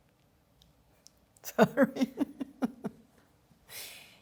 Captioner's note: laughter